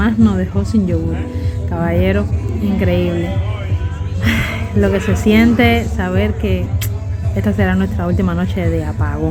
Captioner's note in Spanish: risas